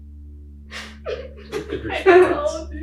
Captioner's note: group laughing